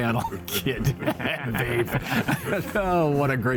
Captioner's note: laughs